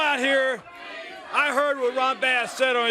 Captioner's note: crowd cheering